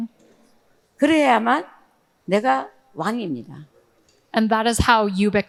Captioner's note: speaking in foreign language